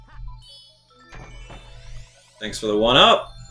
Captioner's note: gaming sounds